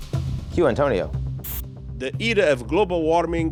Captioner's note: static crackling